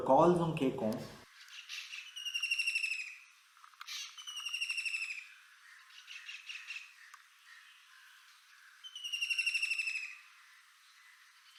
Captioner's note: kingfisher making its typical trilling call